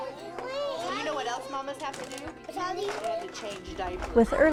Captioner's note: kids playing